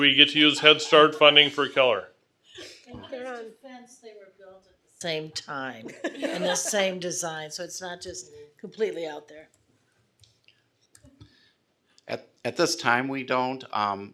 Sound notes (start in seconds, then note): 5.8 laughing